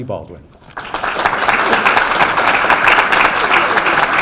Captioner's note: applause